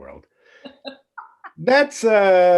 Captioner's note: chuckling